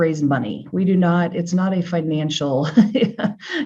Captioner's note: laughs